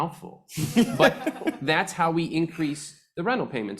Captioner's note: panelists laughing